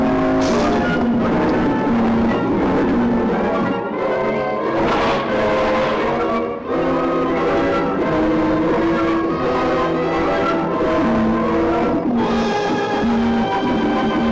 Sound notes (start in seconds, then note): 4.6 splash